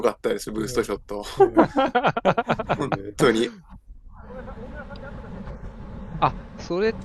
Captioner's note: laughter